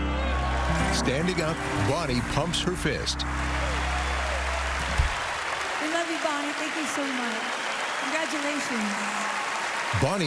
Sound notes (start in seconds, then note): 0.1 cheering and applause; 3.3 whooping